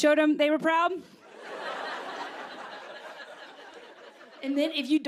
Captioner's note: laughter